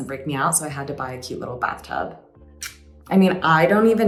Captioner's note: smacks lips